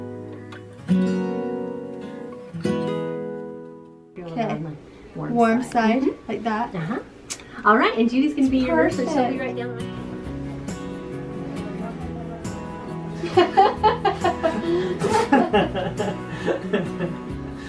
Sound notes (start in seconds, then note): 13.2 laughing